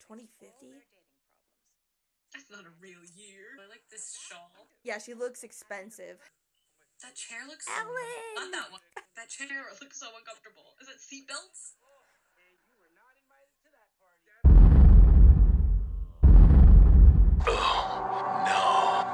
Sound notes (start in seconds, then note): 14.4 explosion sound